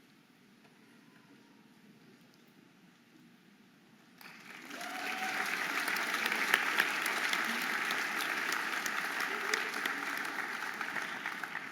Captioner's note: audience applauding and cheering